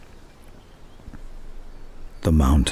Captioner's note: wind and birdsong